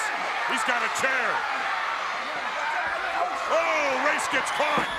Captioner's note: crowd cheering